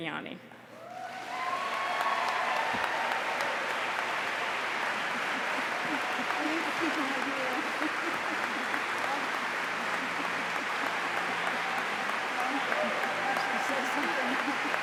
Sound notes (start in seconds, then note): 6.4 applause